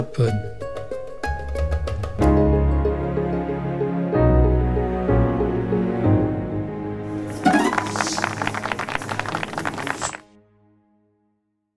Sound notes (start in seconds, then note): 7.2 applause